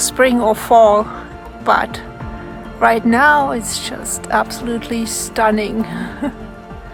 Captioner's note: laughs